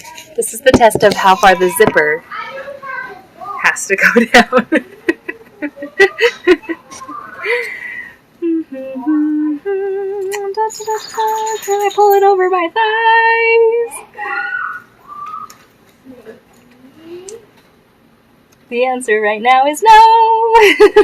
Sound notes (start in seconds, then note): 4.8 humming; 11.5 singing